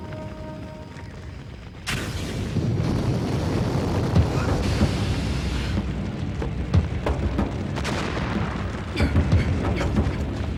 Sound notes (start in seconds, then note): 1.2 explosions; 2.0 flames roaring